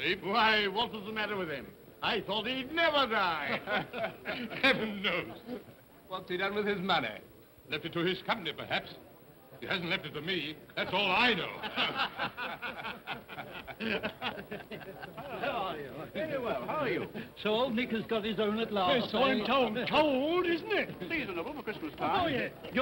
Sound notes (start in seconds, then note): 3.5 men chuckle; 11.5 men chuckle